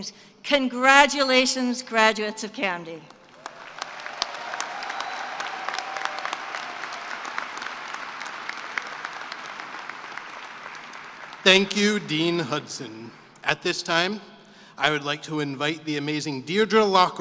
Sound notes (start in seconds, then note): 3.2 cheering and applause